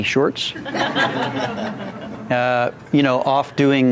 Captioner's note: laughter